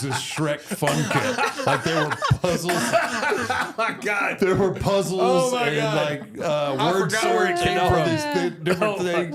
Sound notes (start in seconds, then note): 3.0 all laughing